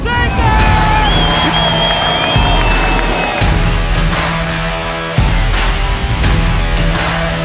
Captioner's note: audience cheering; upbeat music